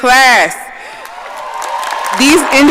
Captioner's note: audience applauding